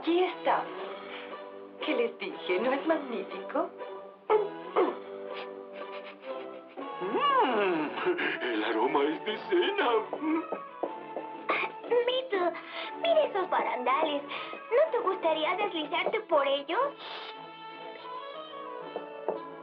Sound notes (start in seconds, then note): 4.3 sniffing